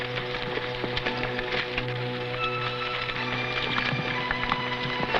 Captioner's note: horse hooves pattering